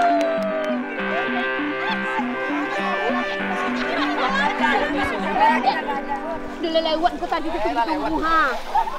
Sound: applause

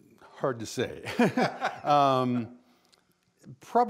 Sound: both laughing

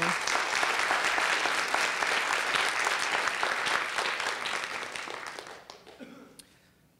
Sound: applause

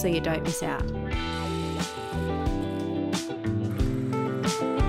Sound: drill whirring

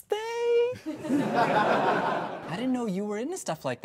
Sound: audience laughs

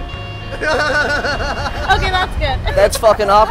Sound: laughter

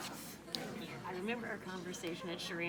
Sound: attendees chattering

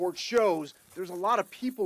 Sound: nats of running

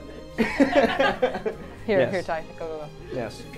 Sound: all laughing

